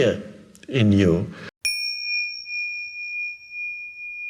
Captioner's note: bell dings